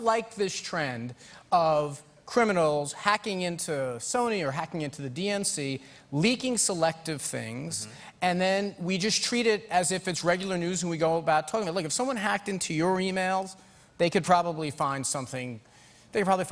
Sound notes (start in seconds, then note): none